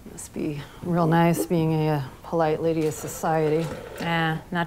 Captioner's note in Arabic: none